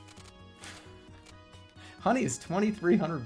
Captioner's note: exhales